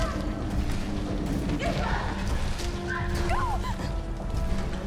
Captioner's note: dramatic music; dinosaur growling; dramatic music